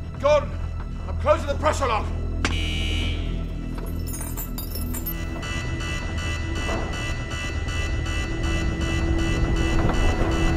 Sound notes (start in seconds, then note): 2.3 tense music; 2.5 alarm buzzing; 5.2 alarm blaring